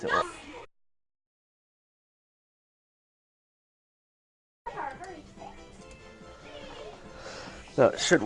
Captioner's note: silence